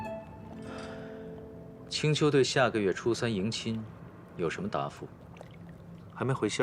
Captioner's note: sigh